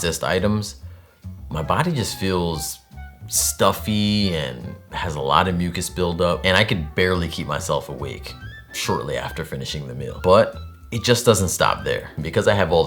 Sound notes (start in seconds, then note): none